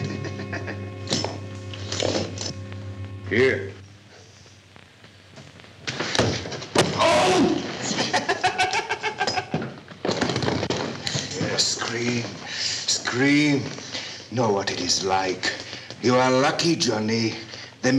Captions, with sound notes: [Carlos laughs] Here! [loud grunt] [Carlos laughs] Yes, scream, scream! Know what it is like. You are lucky, Johnny.